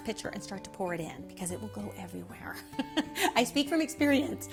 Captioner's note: laughing